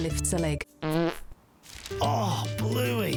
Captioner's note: fart